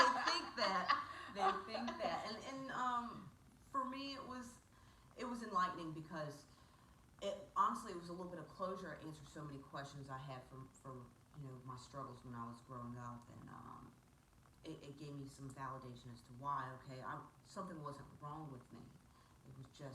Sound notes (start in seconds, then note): 0.0 both laughing; 0.0 female laughs